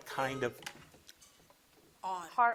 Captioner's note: buzzer blips